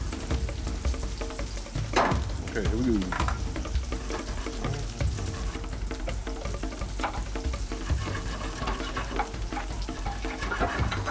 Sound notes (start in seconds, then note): 0.5 intense drum music; 4.2 meat sizzles